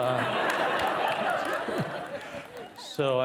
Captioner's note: participants laughing